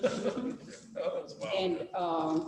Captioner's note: laughs